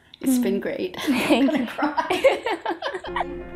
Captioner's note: laughing